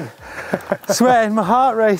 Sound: breathes heavily

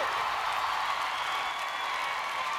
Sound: applause

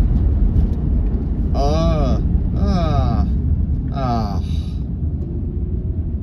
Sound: grumbling

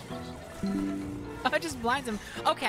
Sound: Windows “Ba-dum”

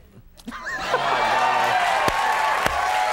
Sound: Conan laughing; audience cheering; Conan clapping

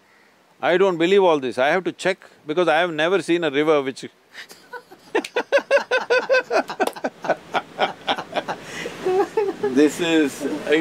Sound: both laugh

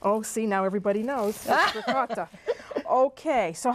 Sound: laughter

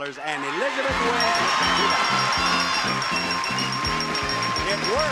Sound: audience cheer; bell rings

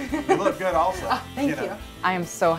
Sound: laughter

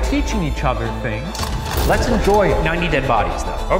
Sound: projector clicks

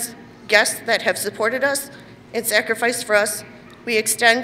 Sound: none

